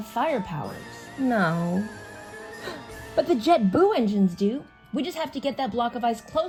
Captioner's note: gasps